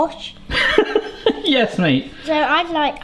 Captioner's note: chuckles